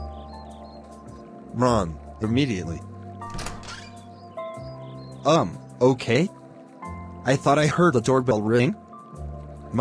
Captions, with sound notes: Run! Immediately! *Door Opens* Um, okay? I thought I heard a doorbell ring?